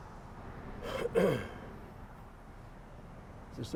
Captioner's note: clears throat